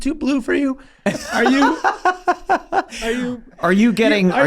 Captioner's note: Rob laughing